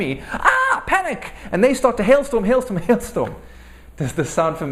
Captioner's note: laugh